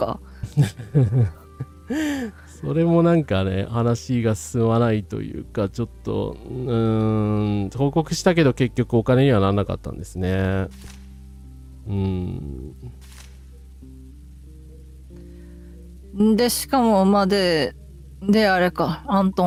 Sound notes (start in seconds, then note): 0.4 laughter